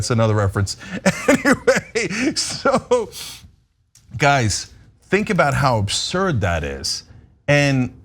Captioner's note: laugh